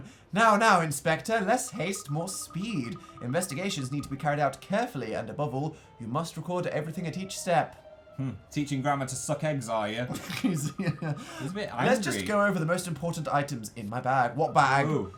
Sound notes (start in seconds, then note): 10.1 D: *slightly awkward laugh